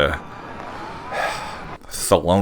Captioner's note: sigh